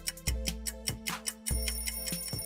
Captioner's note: alarm Ringing